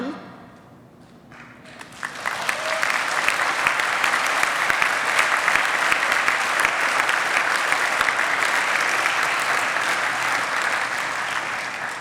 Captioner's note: applause